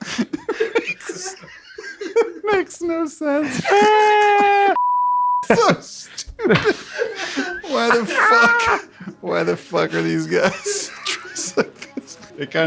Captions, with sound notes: - It makes no sense. (beep) - It's so stupid. Why the fuck... why the fuck are these guys dressed like this?